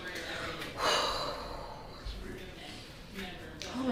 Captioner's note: sighs